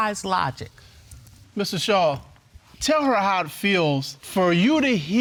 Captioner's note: none